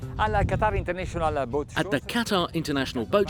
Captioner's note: speaks in foreign language